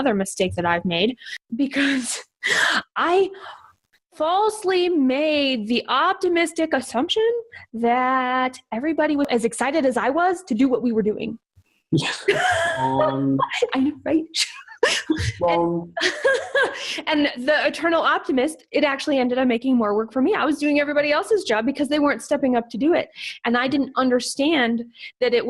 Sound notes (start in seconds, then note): 12.0 both laugh